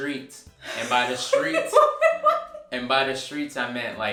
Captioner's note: laughing